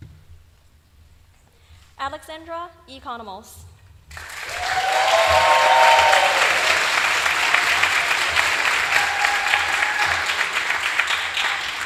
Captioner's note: applause